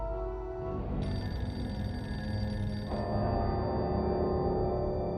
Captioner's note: phone ringing continues